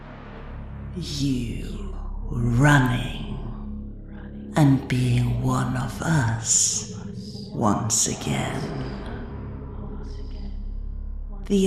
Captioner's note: echoing